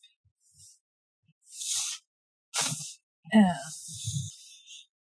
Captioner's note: drawing noises